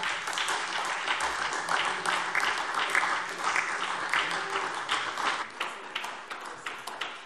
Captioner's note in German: Beifall SPD